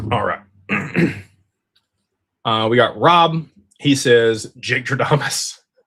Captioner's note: clears throat